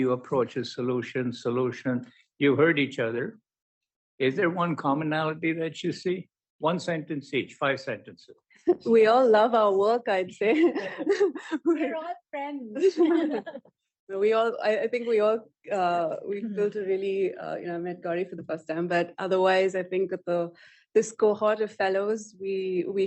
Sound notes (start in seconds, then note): 10.4 laughter